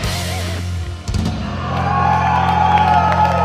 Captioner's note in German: Jubel, Applaus